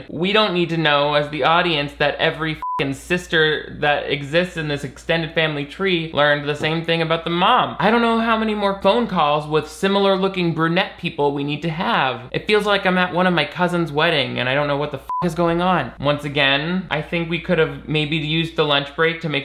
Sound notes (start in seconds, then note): 2.6 beep; 15.0 beep